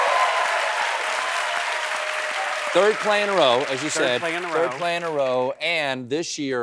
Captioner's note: cheers and applause